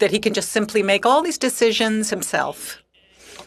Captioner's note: speaking French